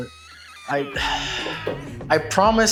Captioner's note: sighs less-than-lovingly